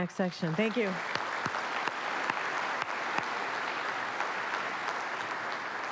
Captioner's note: applause